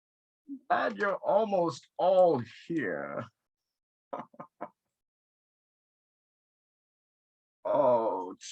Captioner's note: laughs